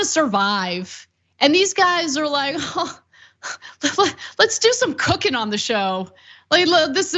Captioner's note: laugh